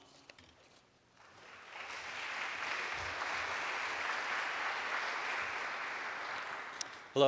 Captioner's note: applause